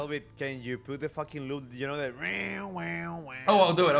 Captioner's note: loop noise